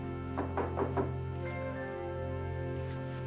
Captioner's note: knocking